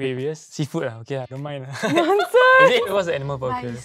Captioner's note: laughs